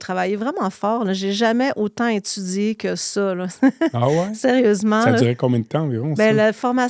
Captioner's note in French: rires